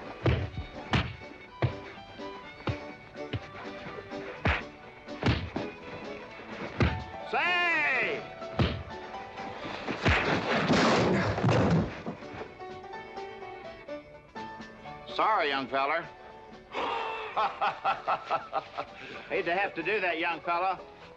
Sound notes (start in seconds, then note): 0.0 dull thuds; 9.6 loud crack & crash; 9.9 thump; 16.7 laughing